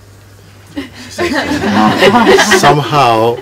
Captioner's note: laughter